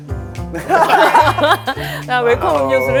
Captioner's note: hahaha